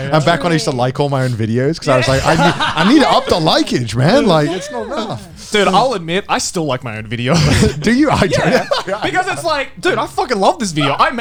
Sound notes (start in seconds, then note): 1.8 all laughing; 7.2 laughs